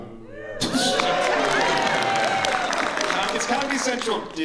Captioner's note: cheers and applause